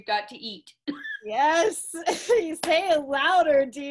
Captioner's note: claps